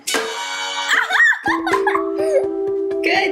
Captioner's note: giggling